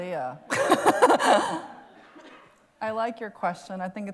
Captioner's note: laughs